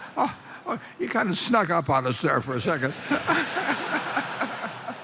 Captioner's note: laughter